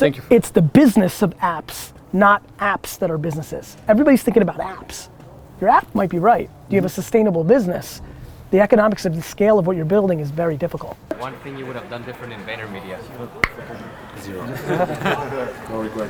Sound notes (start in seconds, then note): 13.4 clicks tongue; 14.3 group laughter